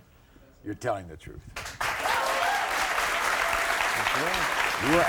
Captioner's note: audience clapping